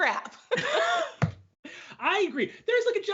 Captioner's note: both laugh